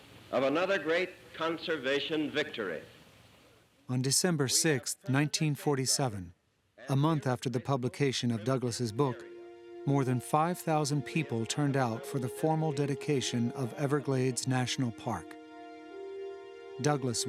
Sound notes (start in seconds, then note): none